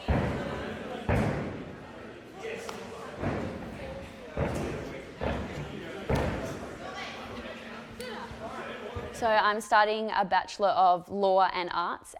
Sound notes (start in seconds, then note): 0.0 feet thudding; 4.2 feet thudding